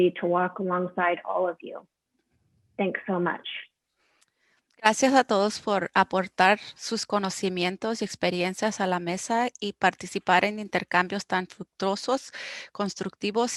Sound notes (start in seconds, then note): 4.5 speaking foreign language